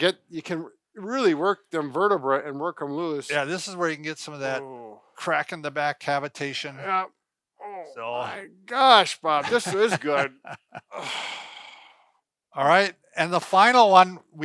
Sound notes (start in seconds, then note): 7.6 grunting; 11.3 laughing